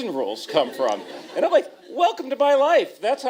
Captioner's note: laughter